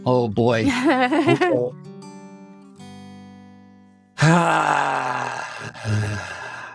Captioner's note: long sigh